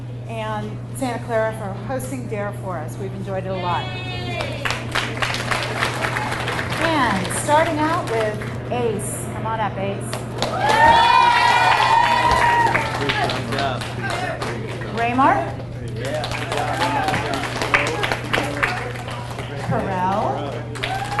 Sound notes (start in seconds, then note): 4.3 audience applauds; 10.1 audience cheers and applauds; 13.9 audience applauds; 16.3 audience applauds; 20.9 audience cheers and applauds